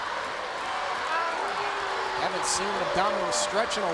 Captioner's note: crowd cheering